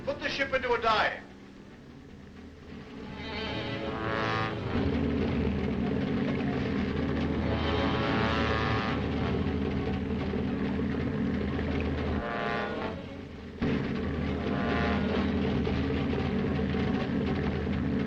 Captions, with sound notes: Put the ship into a dive. (soft uneasy music) (submarine rumbling)